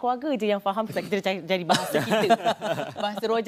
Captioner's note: laugh